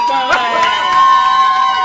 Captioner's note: applause